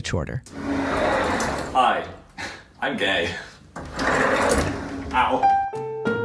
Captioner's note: laugh; bumping sound